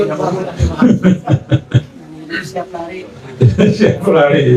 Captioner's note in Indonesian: tertawa